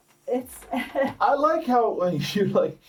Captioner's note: laughs